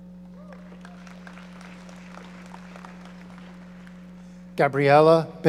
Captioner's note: audience applauding